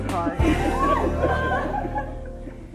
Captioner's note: laughter